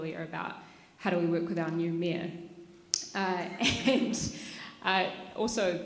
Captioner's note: laughs